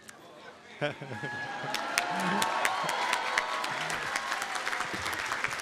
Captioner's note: applause and cheering